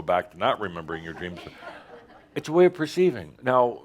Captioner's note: some chuckles